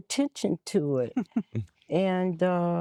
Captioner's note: giggling; nnnh